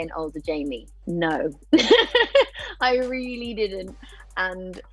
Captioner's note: chuckles